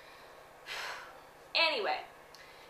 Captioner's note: deep breath